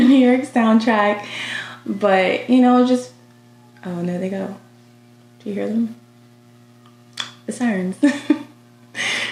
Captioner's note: sirens